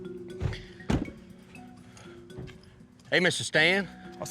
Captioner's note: truck door closes